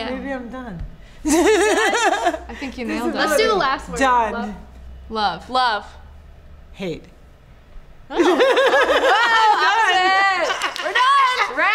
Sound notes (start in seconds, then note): 1.3 laughs; 8.1 laughter